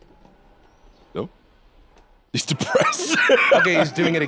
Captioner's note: laughs